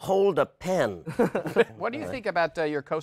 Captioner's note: laughter